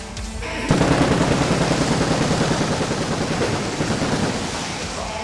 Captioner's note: fireworks booming